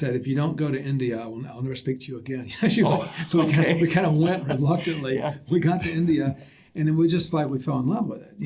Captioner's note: laughter